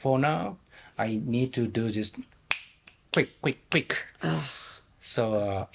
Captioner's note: snapping fingers